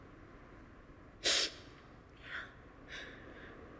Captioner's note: sniffing